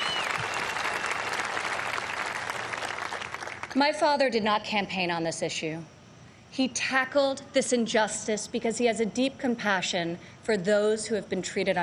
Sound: applause

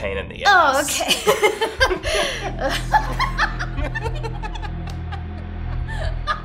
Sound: chuckling

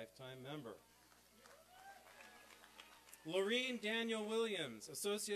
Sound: applause

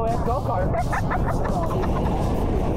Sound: laughing

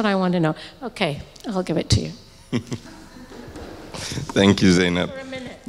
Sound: laughs

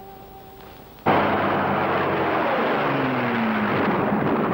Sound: engine roaring

